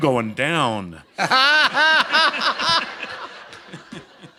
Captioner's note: laughter